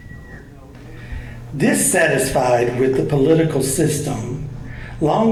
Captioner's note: voiceover